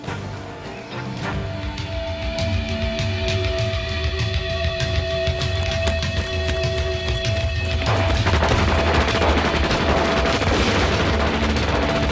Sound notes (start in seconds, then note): 0.2 exciting music; 8.1 rapid gun firing